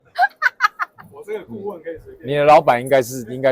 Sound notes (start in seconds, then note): 0.1 laughter